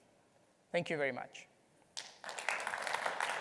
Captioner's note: applause